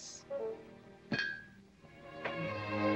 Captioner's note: table rattling